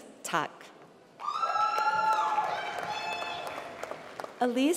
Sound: applause

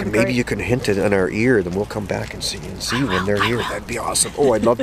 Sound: whispers

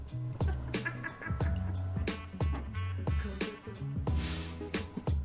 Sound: laughing

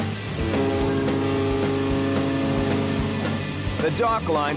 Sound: ship horn blares

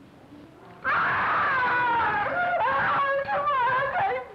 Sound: screams

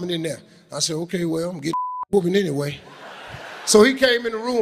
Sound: beep

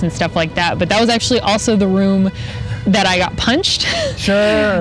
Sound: laughs

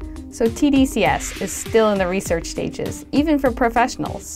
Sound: voiceover

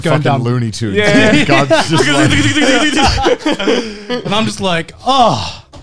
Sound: all laughing

